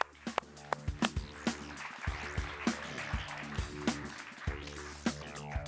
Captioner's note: applause